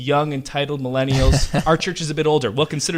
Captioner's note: laughing